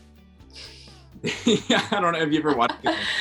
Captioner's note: laughs